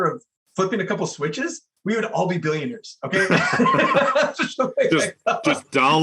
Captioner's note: laugh